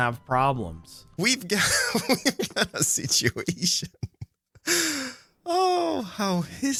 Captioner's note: laughs